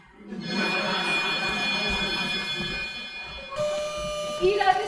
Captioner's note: crowd laughing; phone rings